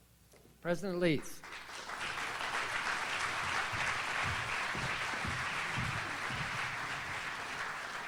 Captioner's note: audience applauds